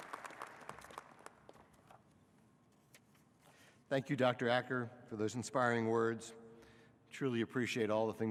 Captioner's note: applause